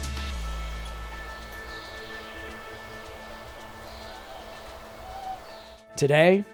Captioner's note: nature sounds